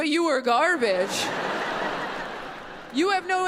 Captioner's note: audience laughs